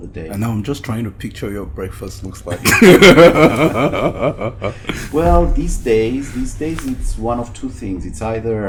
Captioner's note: both laugh